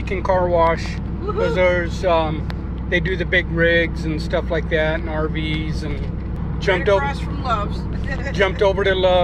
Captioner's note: laughs; laughs